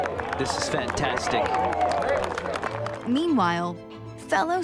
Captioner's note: crowd applauds